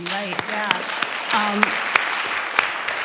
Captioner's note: applause